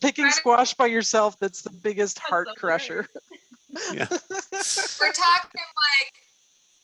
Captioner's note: laughs